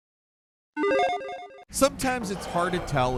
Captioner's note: icon beeps